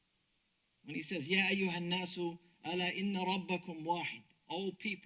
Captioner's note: speaks Arabic